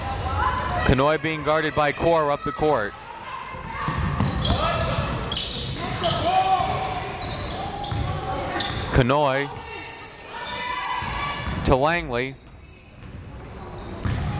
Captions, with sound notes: Kanhoye being guarded by Core up the court. (crowd members shouting) Kanhoye to Langley.